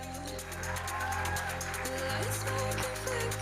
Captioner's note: audience cheering